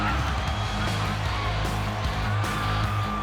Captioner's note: crowd cheering